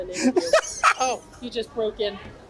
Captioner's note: laughs